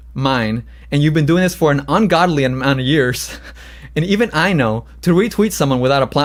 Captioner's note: laughs